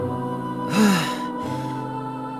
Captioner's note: sigh